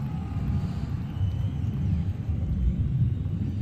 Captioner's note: heavy breathing